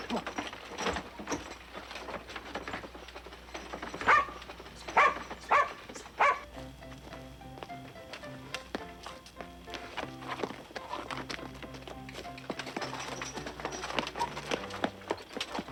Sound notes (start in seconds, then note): 2.2 wagon rattling; 4.8 dog barking; 7.6 bright piano music